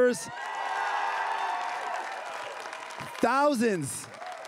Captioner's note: crowd cheering and applauding